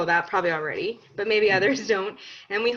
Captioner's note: laughs